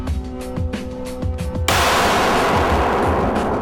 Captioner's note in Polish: pogłos; wybuch